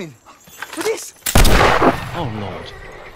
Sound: louder gunshot

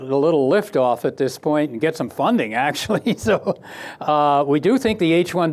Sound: laughs

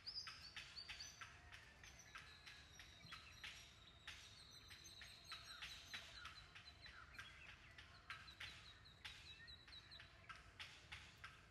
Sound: chirping sound of birds

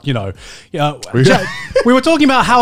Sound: laughing

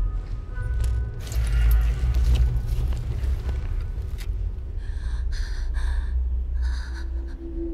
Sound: laboured breathing

